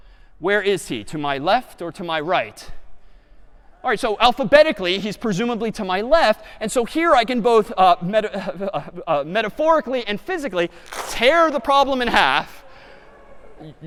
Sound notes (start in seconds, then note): none